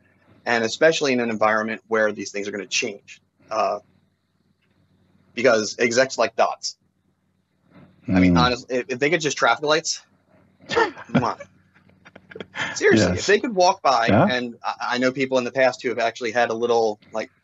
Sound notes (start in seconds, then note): 10.2 makes kissing sound; 10.7 laughs